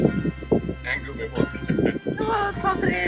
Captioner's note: laugh